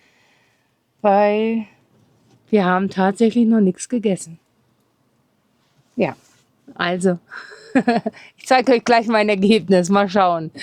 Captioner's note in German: gelächter